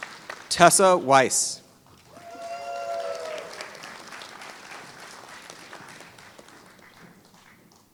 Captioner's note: applause